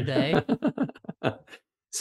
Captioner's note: laughs